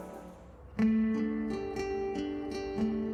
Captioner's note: birds chirping; gentle music